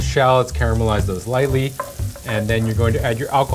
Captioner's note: food sizzling